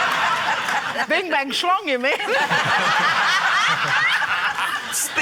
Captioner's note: laughter